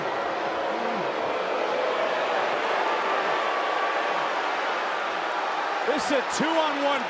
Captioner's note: crowd boos